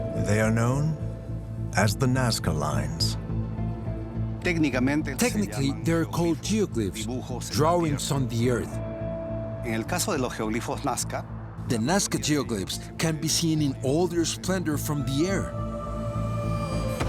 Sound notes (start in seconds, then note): 9.8 speaking Spanish